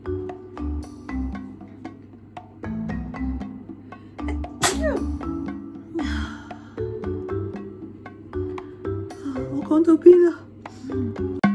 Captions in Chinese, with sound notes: (sneeze) Where were we